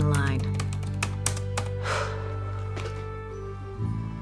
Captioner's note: exhales